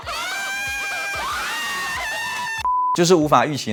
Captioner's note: screaming